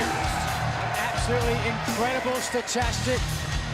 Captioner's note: crowd cheering